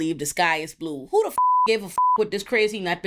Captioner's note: beep